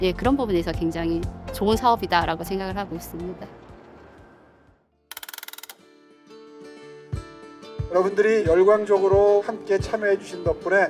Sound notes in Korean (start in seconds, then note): 5.1 드르륵거리는 효과음; 5.8 밝은 음악